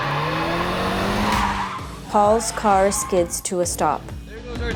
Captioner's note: tires squeal